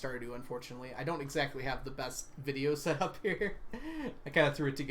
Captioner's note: laughs